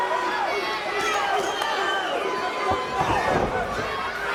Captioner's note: audience barks